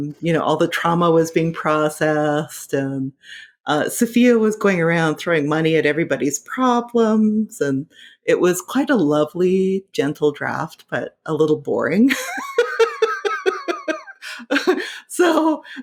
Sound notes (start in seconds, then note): 12.3 laughing